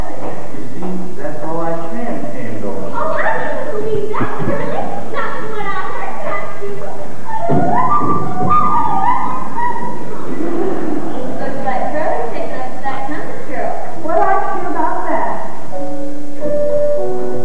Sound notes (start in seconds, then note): 7.2 annoying laugh; 10.2 laughter